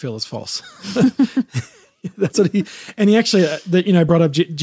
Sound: both laughing

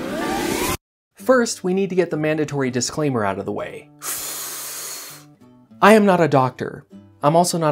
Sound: deep inhale

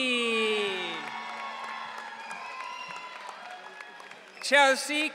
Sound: audience cheering

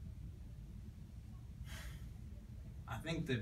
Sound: breathes deeply

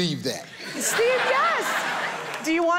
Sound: audience laughing

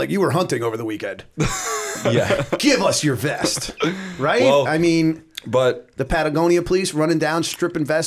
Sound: laughter

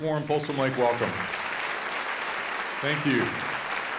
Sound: audience applauding

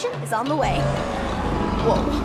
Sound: dinosaur growl

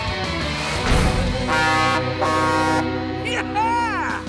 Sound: honking

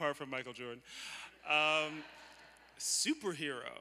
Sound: laughter

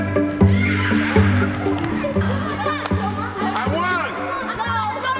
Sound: children shouting happily; shoes squeaking on gym floor

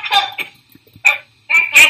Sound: bark

